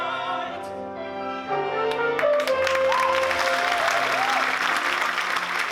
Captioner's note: appluase